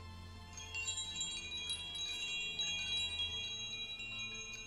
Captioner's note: chimes ringing